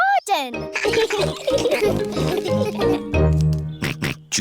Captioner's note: all laugh; snorts